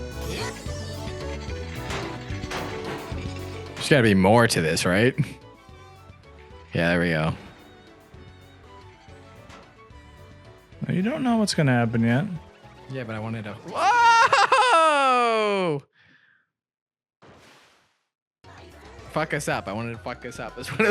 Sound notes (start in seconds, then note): 1.5 metal bangs; 13.7 screams